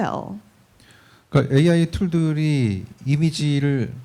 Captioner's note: speaking korean